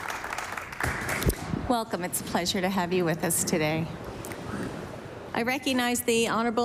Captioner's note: applause